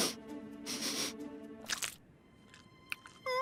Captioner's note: sniffing